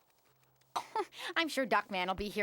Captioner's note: chuckles